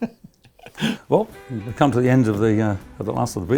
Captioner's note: both laugh